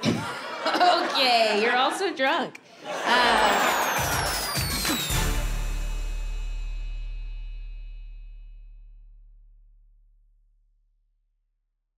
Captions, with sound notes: - (laughs) Okay. You're also drunk. (audience laughing) (upbeat music)